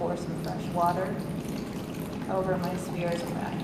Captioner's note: water pouring